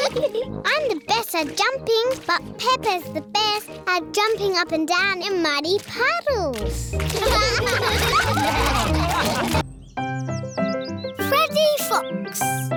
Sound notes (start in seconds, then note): 7.1 all laugh